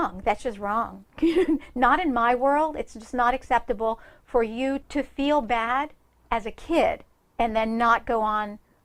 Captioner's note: laughs